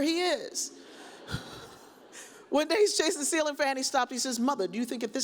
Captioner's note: chuckles